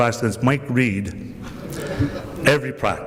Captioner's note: laughter